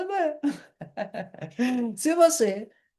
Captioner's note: laughter